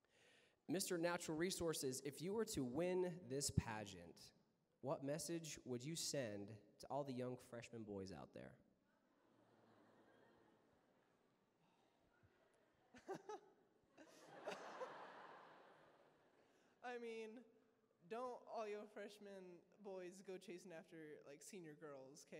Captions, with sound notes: Mr. Natural Resources, if you were to win this pageant, what message would you send to all the young freshman boys out there? [LAUGHS] [LAUGHTER] Don't all you all freshman boys go chasing after senior girls.